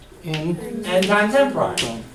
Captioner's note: voiceover